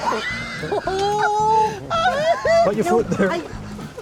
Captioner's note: laughter